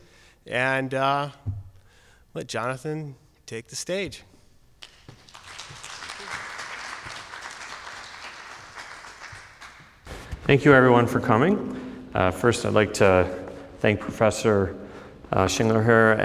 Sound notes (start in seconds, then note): 4.8 applause